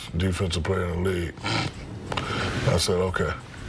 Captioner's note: snorts